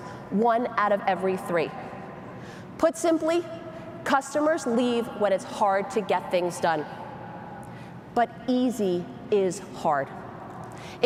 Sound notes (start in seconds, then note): none